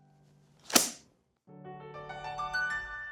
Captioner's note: book snapping; soft piano music continues